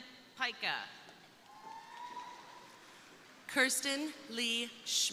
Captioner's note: crowd cheering